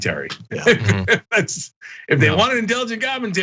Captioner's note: laugh